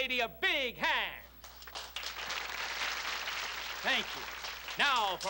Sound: applause

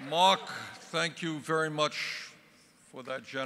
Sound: crowd chanting “Bernie”

